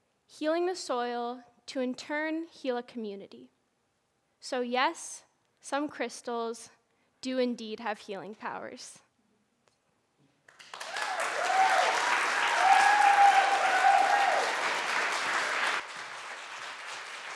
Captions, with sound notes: Healing the soil to, in turn, heal a community. So, yes, some crystals do indeed have healing powers. [APPLAUSE]